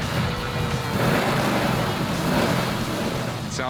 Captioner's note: engine revving